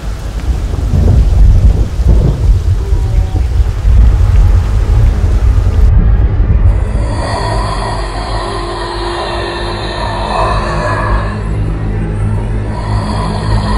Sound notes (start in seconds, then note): 2.5 faint Growl; 6.7 deep roar